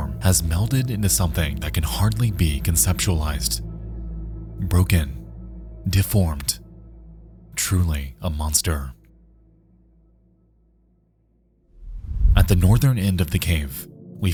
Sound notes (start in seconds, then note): 11.8 air whooshing